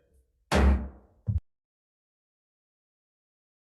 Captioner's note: hammer thuds